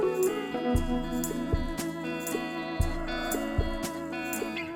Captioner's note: wind and sunlight